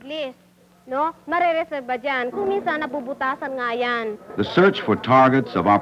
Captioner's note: non-English speech